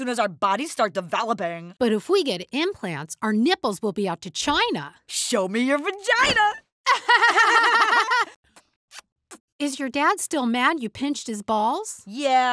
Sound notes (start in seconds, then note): 6.9 laughing; 8.9 kissing